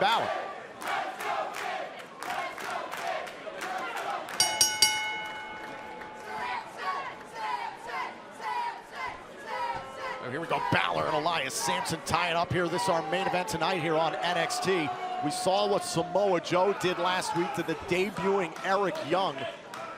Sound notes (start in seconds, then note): 0.0 fans chanting; 4.4 bell ringing